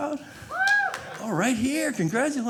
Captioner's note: audience cheering